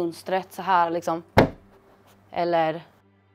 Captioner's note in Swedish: dunk